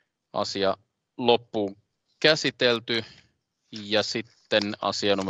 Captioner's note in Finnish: nuijan kopautus